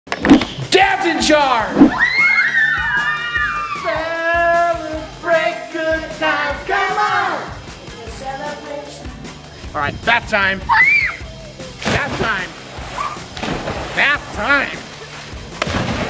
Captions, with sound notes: - Dad's in charge! (cheering) Celebrate good times, come on. Celebration. All right, bath time. (screaming) Bath time. Bath time.